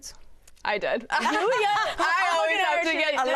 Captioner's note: chuckles